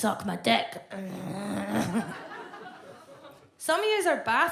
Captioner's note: Fern groans